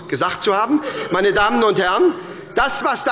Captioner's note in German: Heiterkeit bei der SPD